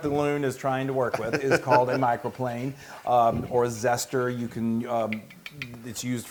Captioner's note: laugh